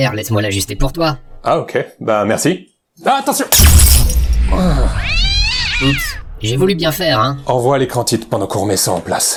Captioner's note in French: crash